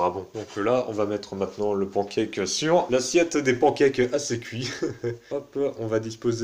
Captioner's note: laughter